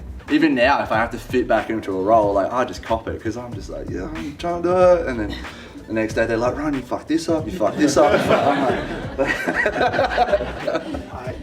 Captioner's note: laughter